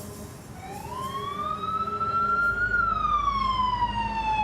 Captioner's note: siren wails